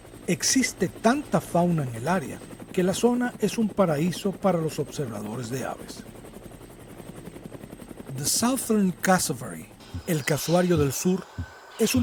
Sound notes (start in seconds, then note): 6.0 helicopter sound